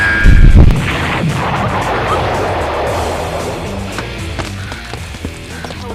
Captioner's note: explosion; crackling of burning leaves